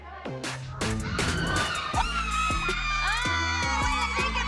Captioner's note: screaming joyfully